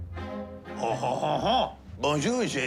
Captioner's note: french accent